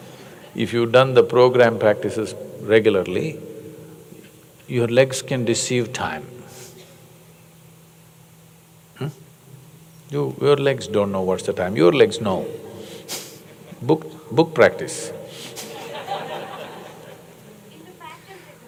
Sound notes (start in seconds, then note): 13.2 laughs; 15.5 laughter